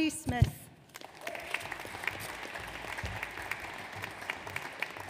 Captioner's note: audience applauds